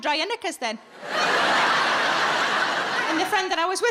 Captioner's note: audience laughing